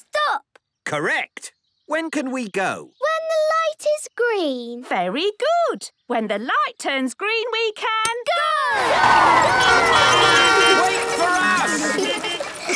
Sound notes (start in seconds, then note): 9.0 beeping; 11.4 laughter